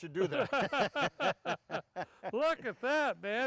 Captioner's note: laughs